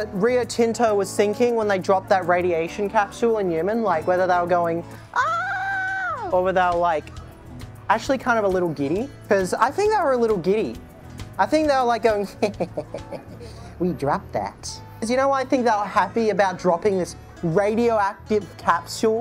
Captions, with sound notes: rear Tinto was thinking when they dropped that radiation capsule in Newman, like whether they were going, (fake screaming) or without like, actually kind of a little giddy because I think they were a little giddy. I think they were like going, (laughing) we dropped that. You know why I think they were happy about dropping this radioactive capsule